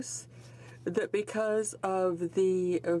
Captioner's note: speaking French